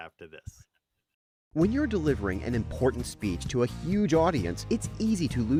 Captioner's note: voice-over